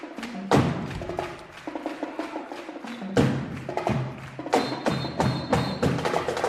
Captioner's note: rhythmic clapping; drumming